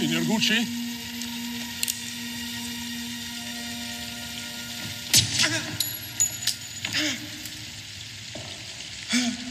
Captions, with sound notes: - Signor Gucci? (gunshot)